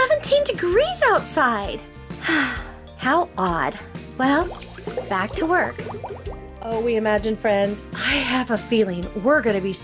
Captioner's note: science lab bubbling